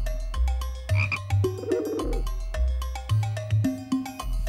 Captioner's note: croaking; cooing